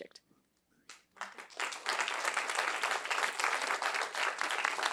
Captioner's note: applause